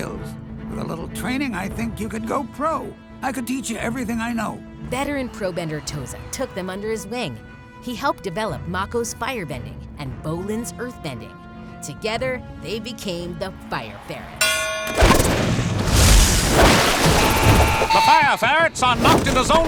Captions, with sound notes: With a little training, I think you could go pro. I could teach you everything I know. Veteran pro-bender Toza took them under his wing. He helped develop Mako's firebending and Bolin's earthbending. Together, they became the Fire Ferrets. [dinging] The Fire Ferrets are knocked into zone two,